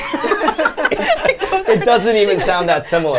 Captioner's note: group laughs